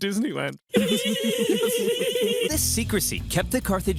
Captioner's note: soldiers giggling